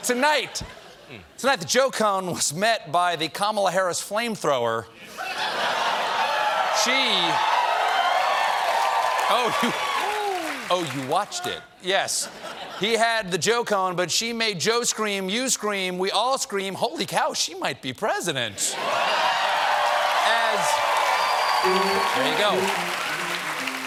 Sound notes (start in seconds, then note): 8.4 cheering